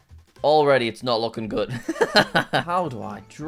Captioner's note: laughs